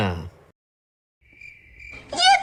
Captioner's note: total silence ensues; crickets Cheer